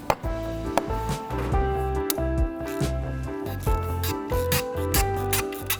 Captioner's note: upbeat music; tool squeaking